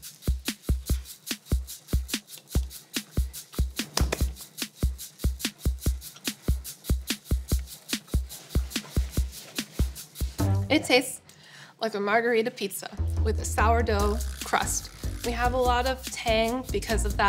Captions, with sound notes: (funky music) (slaps hands together) It tastes like a margherita pizza with a sourdough crust. We have a lot of tang because of that